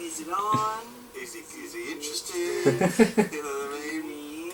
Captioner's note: Eric laughs